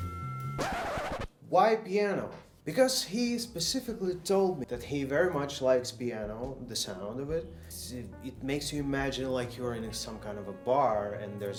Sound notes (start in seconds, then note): 0.0 soft Music; 0.6 record Scratching